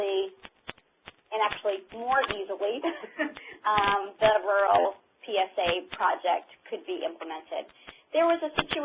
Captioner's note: laughter